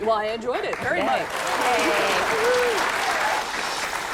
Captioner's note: applause